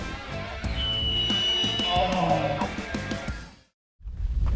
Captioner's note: elk crying